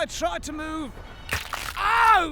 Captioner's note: horrible bone crack